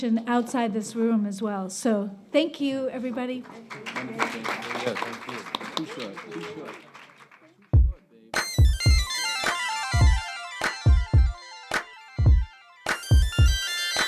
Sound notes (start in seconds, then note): 3.3 applauding; 8.3 funky music